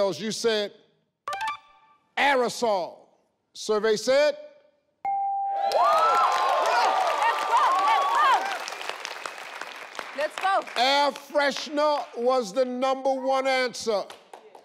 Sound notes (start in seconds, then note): 5.0 bell rings; 5.5 audience cheers